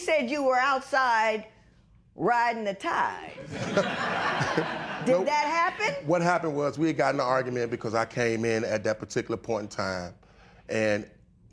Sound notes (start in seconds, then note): 3.4 laughter